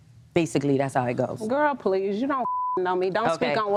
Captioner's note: beep